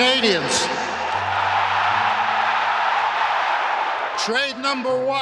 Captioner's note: cheers